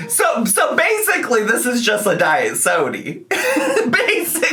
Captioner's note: laughs